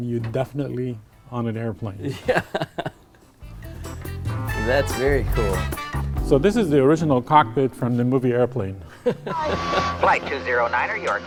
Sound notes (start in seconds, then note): 2.0 laughing